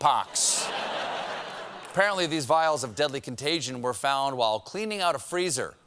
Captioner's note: laughter